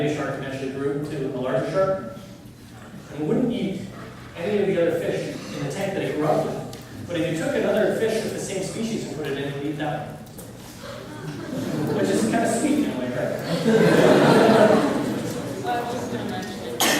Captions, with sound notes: and the baby shark actually grew into a larger shark and it wouldn't eat any of the other fish in the tank they grew up with. But if you took another fish of the same species and put it in they'd eat that one. Which is kind of sweet in a way, right? (laughter)